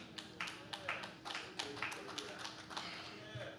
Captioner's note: audience claps